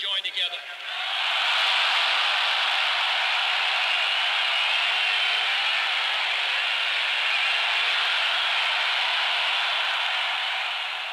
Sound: applause

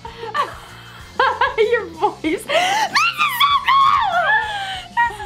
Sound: laughs

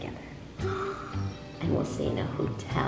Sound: gasps

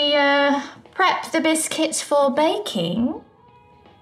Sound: British accent

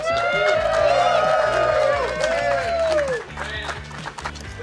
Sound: cheering & Clapping

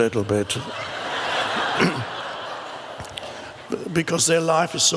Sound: crowd laughs

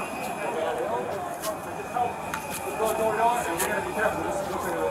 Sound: background talking

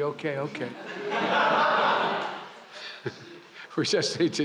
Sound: laughter

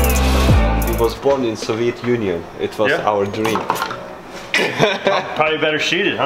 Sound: laughing

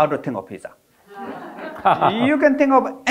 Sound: all laughing

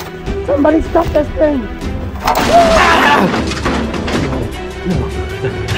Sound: yelps

